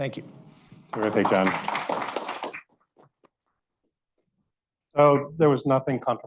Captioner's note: audience applauding